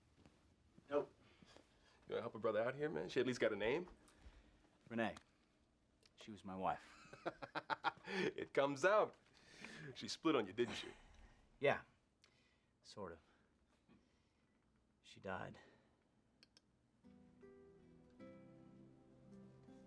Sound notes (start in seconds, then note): 7.1 laughing; 17.1 piano plays softly